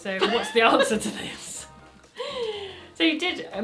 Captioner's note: they laugh